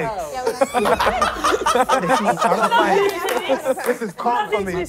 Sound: laughing

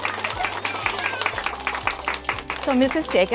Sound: cheering

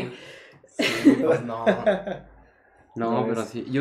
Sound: laughter

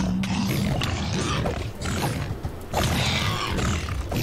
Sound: pig noises

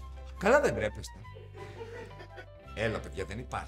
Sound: laughs

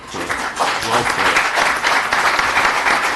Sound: applause

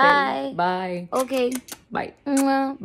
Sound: grandma smooches

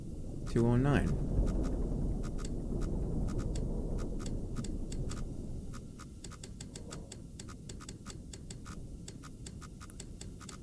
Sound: machine whirring

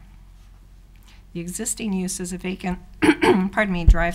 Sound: clears throat

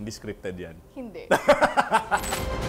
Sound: laughs

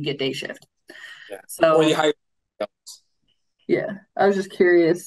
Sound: audio breaks

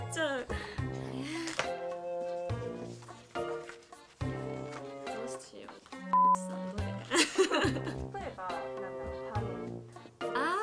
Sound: beep

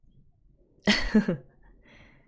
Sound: chuckles

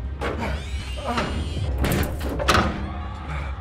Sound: door slams shut

